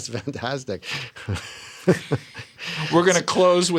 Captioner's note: laughter